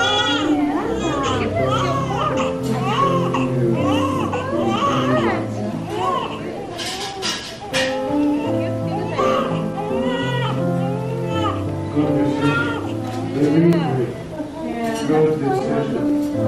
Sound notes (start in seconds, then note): 7.5 baby crying; 8.7 baby crying, nurses talking; 10.2 baby crying, piano music; 12.0 baby crying, nurses talking